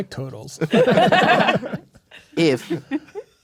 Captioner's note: players laughing